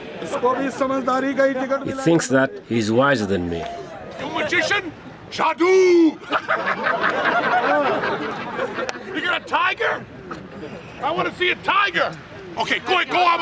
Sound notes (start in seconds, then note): 0.6 non-english speech; 6.3 laughs